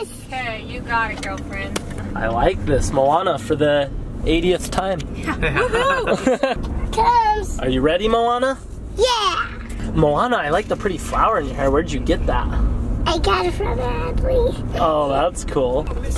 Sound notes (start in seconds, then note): 5.2 laughs